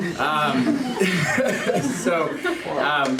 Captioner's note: all laugh